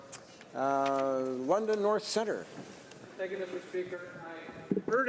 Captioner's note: speaking French